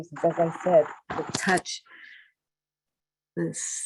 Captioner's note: Static